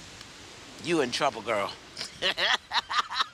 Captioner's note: laughs